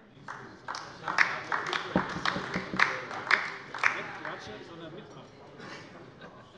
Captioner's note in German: Beifall bei der LINKEN